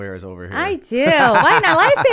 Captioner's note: laughter